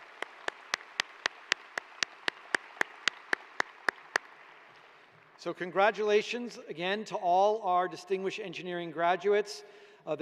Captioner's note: applause